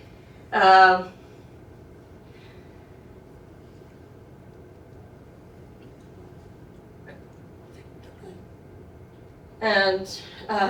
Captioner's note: silence